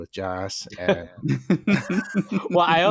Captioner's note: laughter